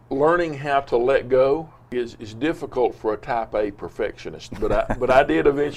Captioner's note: laughs